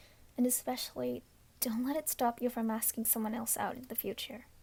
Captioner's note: none